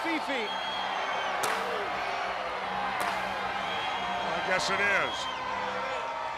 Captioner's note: crowd cheering